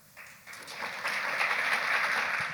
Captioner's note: applause